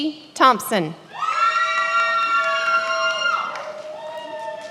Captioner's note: many applauding